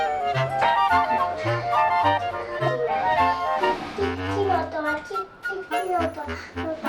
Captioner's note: laughs